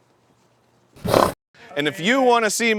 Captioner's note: horsey blusters